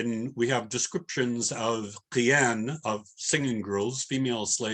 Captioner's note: non-english